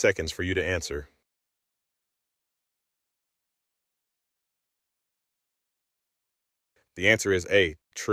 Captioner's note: no audio